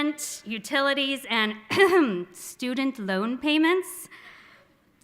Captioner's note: clears throat